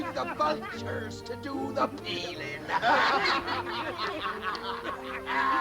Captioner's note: laughing